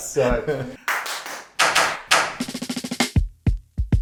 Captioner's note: hands clapping; mellow jazz music